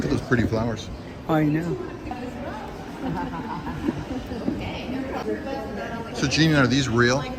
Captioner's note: indistinct chatting